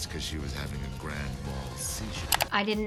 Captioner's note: mouse clicks